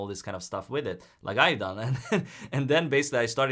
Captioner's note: chuckles